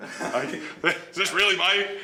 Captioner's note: laughing